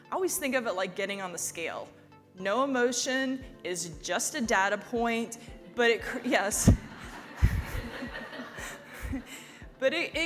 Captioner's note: laugh